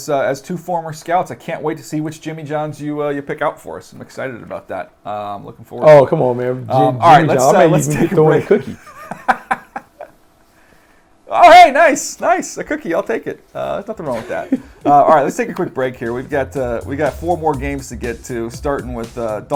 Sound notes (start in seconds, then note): 11.1 laughter